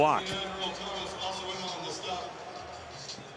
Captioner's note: pa announcement